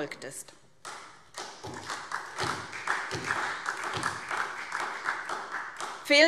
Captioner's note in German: Beifall SPD